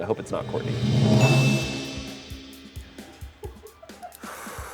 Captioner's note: bell chimes